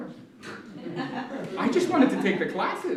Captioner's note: laughter